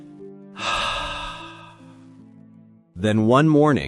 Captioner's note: sigh